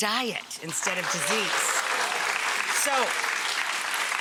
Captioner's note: audience applause